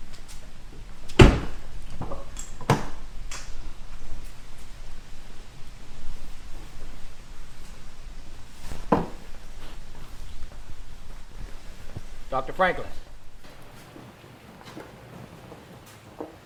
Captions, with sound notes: (vehicle door slams) - Dr. Franklin.